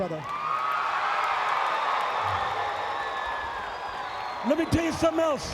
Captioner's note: audience cheering